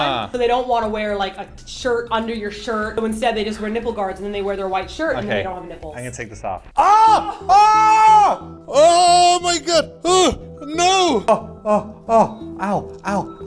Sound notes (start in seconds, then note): 6.8 more screams; 6.8 screams in pain